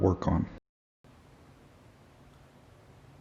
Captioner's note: very quiet